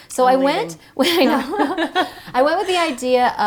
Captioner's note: laughing